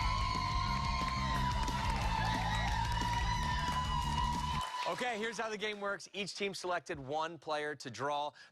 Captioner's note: cheers and applause